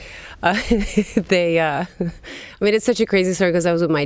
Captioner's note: laughs